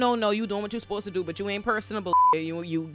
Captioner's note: beep